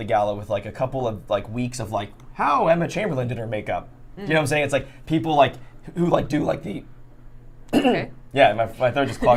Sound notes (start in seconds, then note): 7.7 clears throat